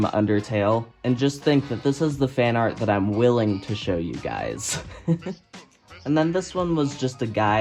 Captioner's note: laughs